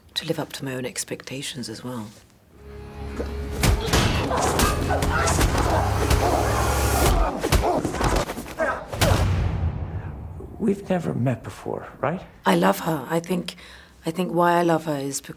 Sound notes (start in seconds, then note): 2.6 dramatic music; 3.9 grunting